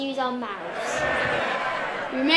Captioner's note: Sound of MPs cheering